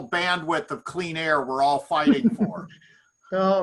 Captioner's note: giggles